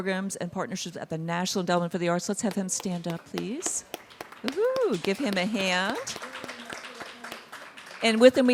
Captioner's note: applause